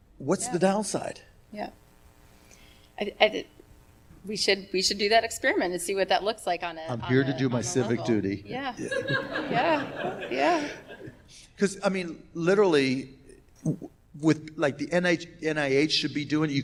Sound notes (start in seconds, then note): 8.7 laughs